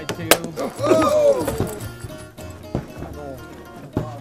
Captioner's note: bottle thuds